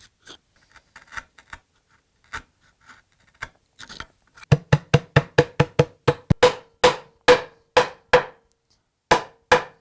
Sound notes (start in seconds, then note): 4.5 forceful tapping; 6.4 careful hammering